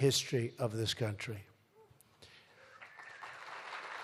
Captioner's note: applause